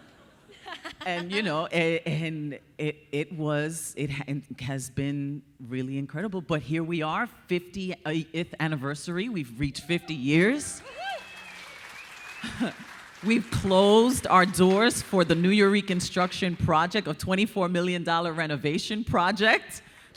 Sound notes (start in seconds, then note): 9.8 audience cheering; 10.3 audience applauding